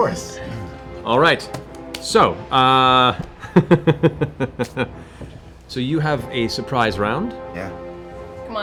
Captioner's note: laughs